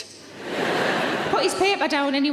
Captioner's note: audience laughs